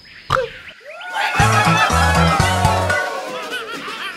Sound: birds cheering

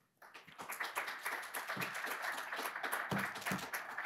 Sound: audience applauding

